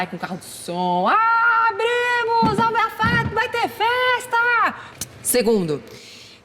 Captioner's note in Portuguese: grita